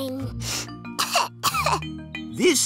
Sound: sniffs and coughs

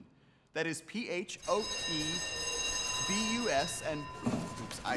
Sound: school bell rings

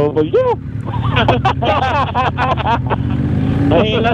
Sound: group laughing

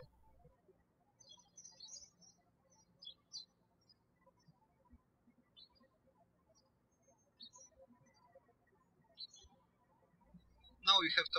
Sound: birds chirping

